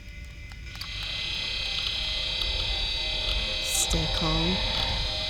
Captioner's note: soft intriguing music; machine whirring